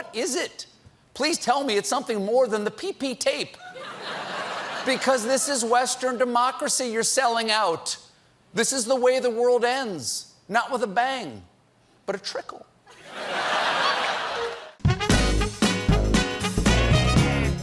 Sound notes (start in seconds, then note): 3.6 laughter; 12.9 laughter; 13.1 applause